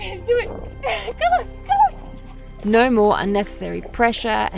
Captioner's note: laughs